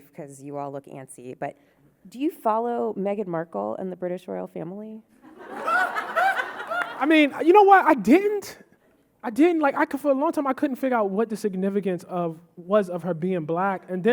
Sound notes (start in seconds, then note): 5.3 audience laughing